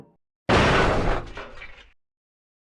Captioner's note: metallic crash